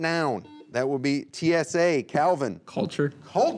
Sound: buzzer beeping

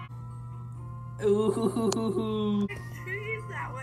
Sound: chuckling

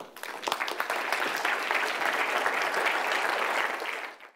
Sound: applause

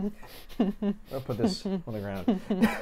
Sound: laughs

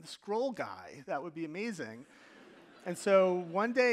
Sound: audience laughing

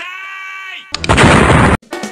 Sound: explosion

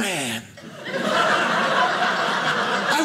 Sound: audience laughing

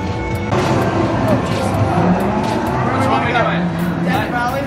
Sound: revving car engine

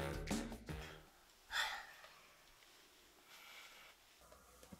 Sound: yawns

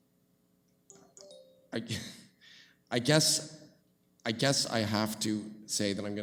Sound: phone beeps

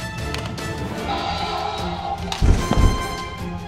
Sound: T -Rex Roaring!

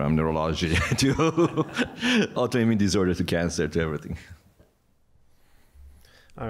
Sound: laughter

